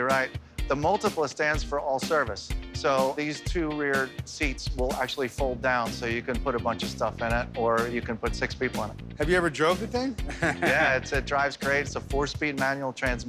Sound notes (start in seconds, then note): 10.2 laughs